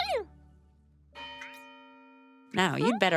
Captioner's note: church bell ringing